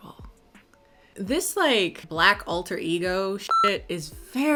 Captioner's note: beep